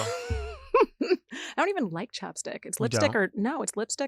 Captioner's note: laughs